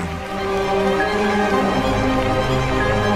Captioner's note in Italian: Applauso